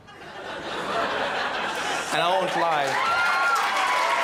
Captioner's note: crowd laughs